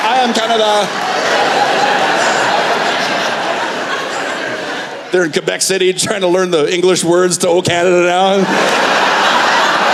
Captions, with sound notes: I am Canada.” (Laughter) They're in Quebec City trying to learn the English words to O Canada now.